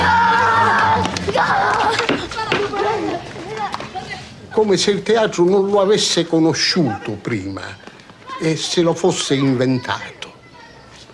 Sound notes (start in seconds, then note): 4.3 speaking italian